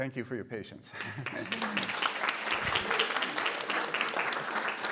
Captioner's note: applause